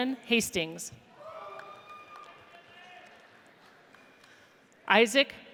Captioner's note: audience cheers